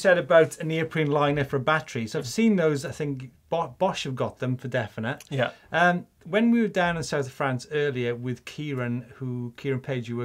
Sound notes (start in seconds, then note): none